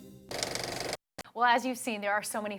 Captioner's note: film reel clicking